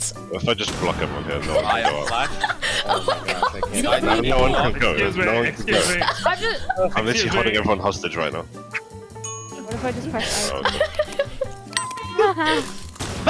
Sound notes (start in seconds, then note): 1.5 murmuring